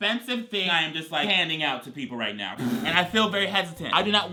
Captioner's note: blows raspberry